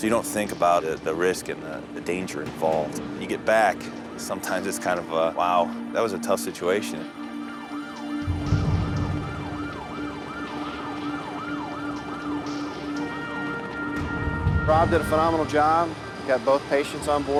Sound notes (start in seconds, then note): 8.2 sirens blaring